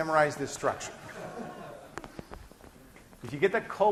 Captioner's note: class laughing